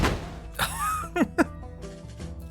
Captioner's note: laughs